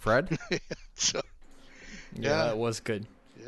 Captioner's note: laughs